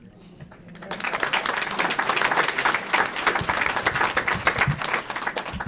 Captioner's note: applause